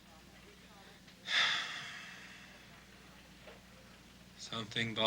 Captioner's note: Casey sighs